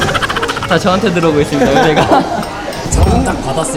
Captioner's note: haha